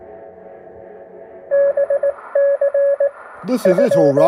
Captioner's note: scanner bleeps